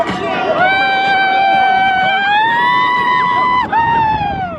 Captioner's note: screaming